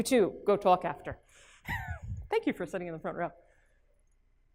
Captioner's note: laugh